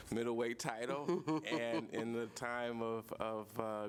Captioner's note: laughter